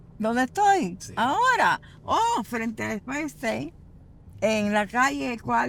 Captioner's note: speaks in foreign language